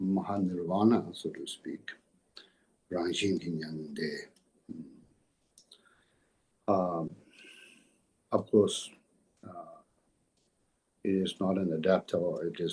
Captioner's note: tibetan